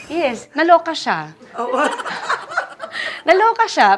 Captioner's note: laughs